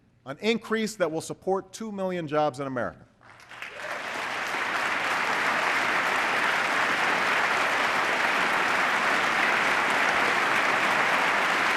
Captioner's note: applause